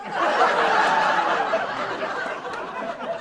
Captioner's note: voiceover